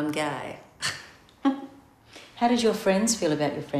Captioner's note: giggling